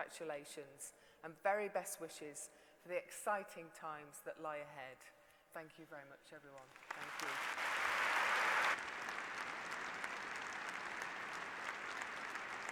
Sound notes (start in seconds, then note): 6.6 applause